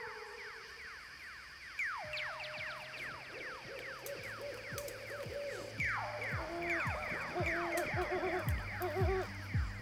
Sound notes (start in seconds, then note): 3.9 owl hoots